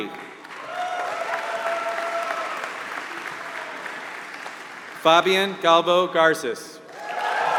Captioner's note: applause; applause